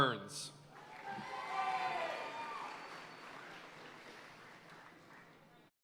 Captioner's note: audience cheering and applauding